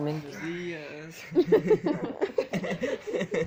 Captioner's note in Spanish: risas